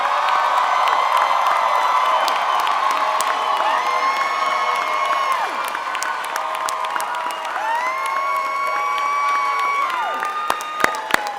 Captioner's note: cheering and Applause